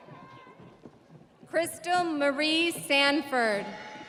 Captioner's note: audience cheering